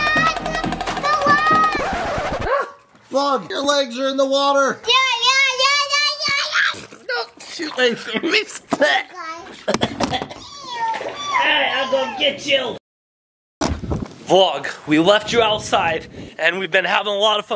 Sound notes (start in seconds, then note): 5.0 exclaiming; 5.0 shouting; 10.3 squealing